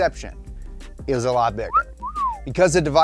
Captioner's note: whistling